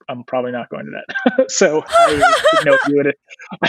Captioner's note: laughing